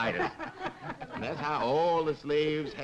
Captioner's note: group laughing